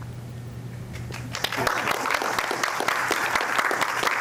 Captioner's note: applause